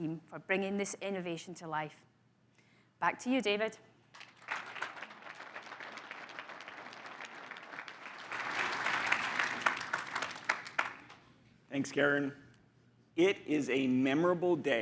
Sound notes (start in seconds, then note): 4.1 crowd applauds